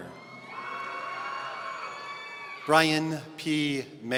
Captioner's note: audience cheering